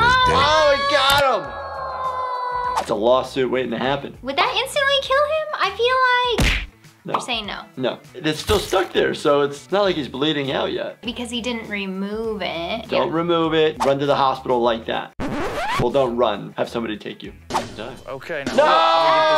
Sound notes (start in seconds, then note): 15.2 record screeching